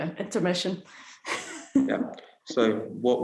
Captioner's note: laughs